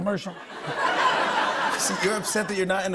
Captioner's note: laughter